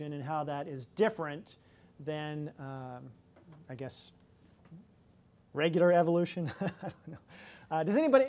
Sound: laughs

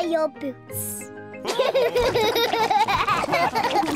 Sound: all laughing

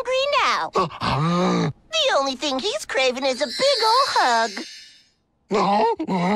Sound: groan; growl

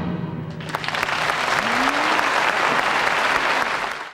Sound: audience applauding

